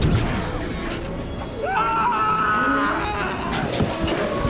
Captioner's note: male scream